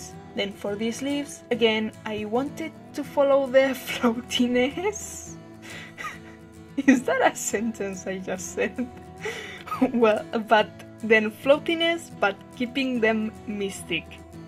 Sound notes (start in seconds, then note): 5.7 laugh